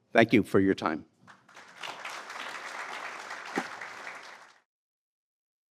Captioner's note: applause